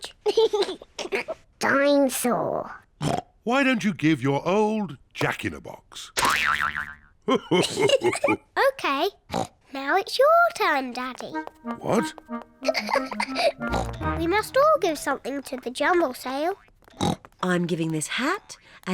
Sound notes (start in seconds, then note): 0.2 laughs; 3.0 oinks; 7.3 laughs; 12.6 giggles; 16.9 oinks